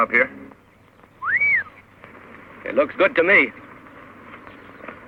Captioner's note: whistles